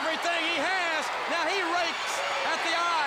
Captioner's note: crowd cheering